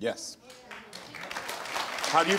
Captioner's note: audience applauding